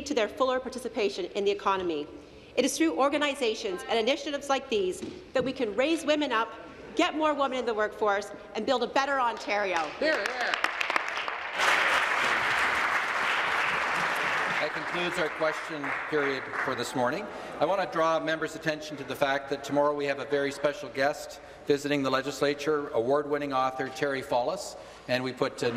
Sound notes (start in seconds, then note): 14.1 applause